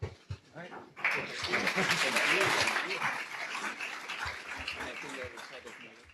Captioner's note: applause